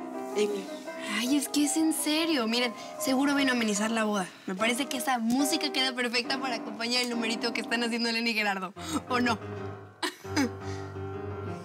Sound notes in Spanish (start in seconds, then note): 9.0 risas; 10.3 se sigue escuchando el piano